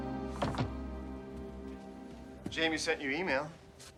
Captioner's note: knocks